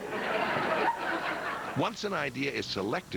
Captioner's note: laughter